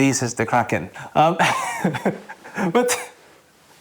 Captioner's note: laughs